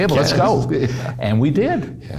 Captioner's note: laughing